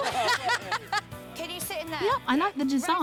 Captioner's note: laughs